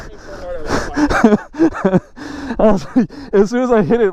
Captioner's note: laughing